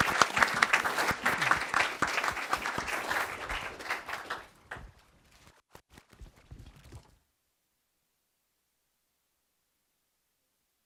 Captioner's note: applause